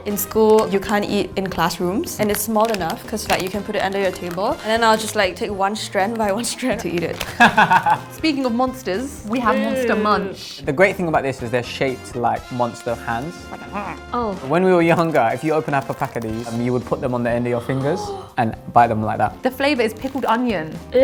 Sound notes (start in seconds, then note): 7.4 laughs; 13.6 imitates monster sound; 17.5 gasps